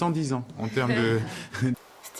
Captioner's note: awkward laugh from the guests